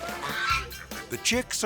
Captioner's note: swan squawking